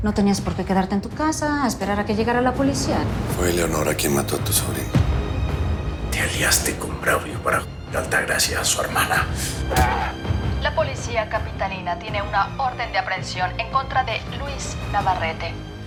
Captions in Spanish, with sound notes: - NO TENÍAS POR QUÉ QUEDARTE EN TU CASA A ESPERAR A QUE LLEGARA LA POLICÍA. - FUE ELEONORA QUIEN MATÓ A TU SOBRINA. - TE ALIASTE CON BRAULIO PARA ----- A ALTAGRACIA Y A SU HERMANA. [Quejido] [Voz en la TV] LA POLICÍA CAPITALINA TIENE UNA ORDEN DE APREHENSIÓN EN CONTRA DE LUIS NAVARRETE.